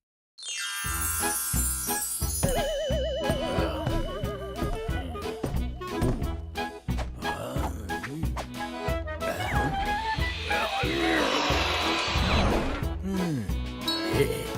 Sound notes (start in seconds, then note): 2.6 accommodation fairy stomps and grunts; 9.8 circular saw whirs; 10.2 accommodation fairy grunts; 12.9 accommodation fairy sighs and grunts, pleased